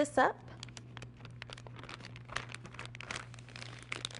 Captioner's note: bag rustling